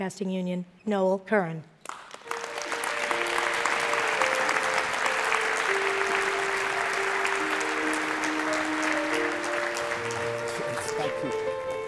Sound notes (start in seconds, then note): 1.8 applauding; 2.7 inspiring music